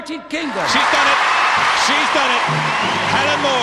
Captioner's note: audience cheering